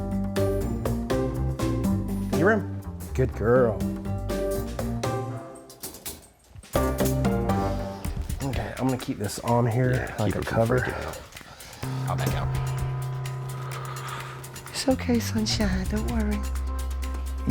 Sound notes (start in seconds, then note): 0.0 upbeat electronic music; 4.9 crate door clanks